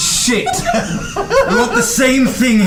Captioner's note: all laugh